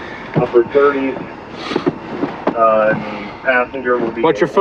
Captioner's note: radio